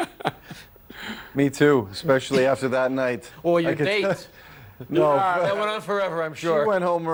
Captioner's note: laughter